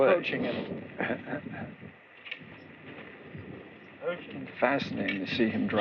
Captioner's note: chuckles